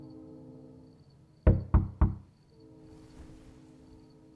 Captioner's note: knocking